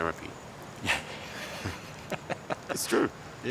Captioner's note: both laugh